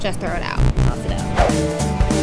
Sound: buzzing; energetic music

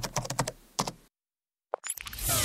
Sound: keyboard keys clicking

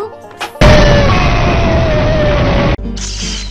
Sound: explosion

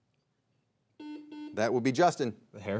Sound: buzzer beeps twice

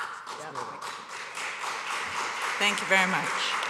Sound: applause

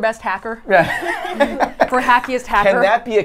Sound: laughs

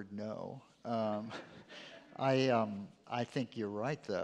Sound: chuckles

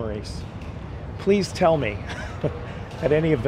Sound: chuckles

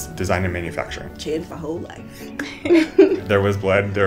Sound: laugh

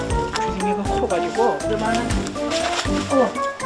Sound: flaps

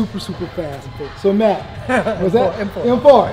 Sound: laughter

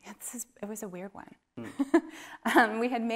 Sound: laughs

